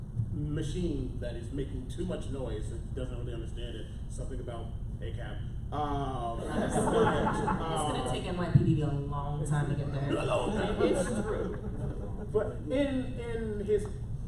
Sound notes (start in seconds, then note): 6.4 laughter